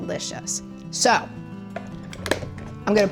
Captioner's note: lid snaps